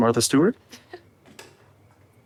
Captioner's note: chuckles